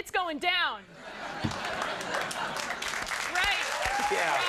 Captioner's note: crowd laughs